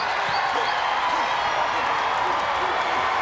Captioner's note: crowd cheers